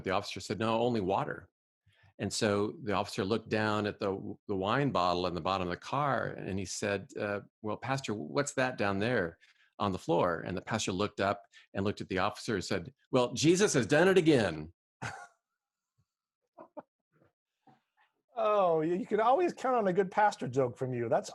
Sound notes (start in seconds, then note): 14.9 laughing